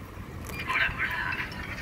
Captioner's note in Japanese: 商品選択音